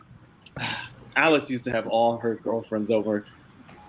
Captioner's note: sighs fondly